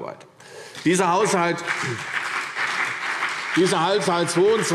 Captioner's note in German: Beifall CDU, BÜNDNIS 90/DIE GRÜNEN und vereinzelt SPD